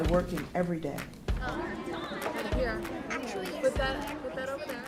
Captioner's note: chatter among children and parents